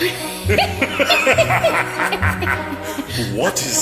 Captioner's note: conspiratorial evil laugh